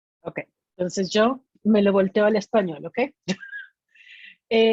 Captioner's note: speaking in Spanish